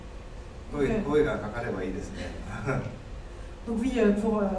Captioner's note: laughs